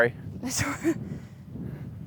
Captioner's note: laughs